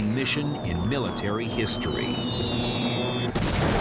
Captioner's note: bombs whistling; gunfire